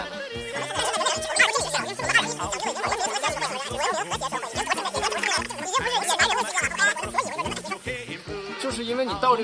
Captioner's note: fast forwarded bickering